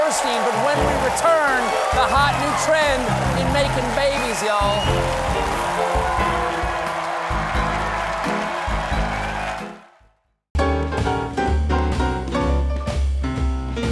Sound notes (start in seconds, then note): 5.1 band playing; 5.1 cheers and applause